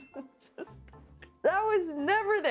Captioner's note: laughing